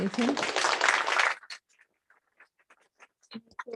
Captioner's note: applause